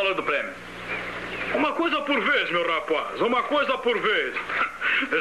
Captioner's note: chuckles